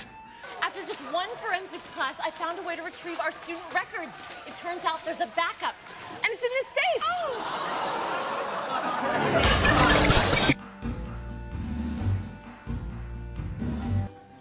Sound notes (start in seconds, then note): 6.9 laugh track